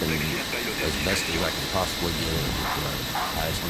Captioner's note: speaking in foreign language